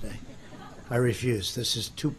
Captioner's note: laughter